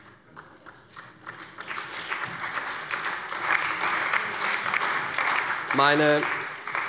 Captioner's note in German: Allgemeiner Beifall